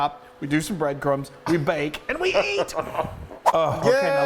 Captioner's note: laughs